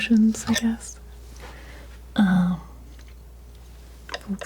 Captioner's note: scraping